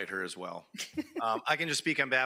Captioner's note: president chuckling